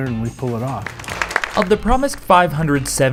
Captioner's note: applause